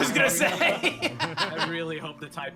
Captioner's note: laughs